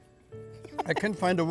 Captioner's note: laughs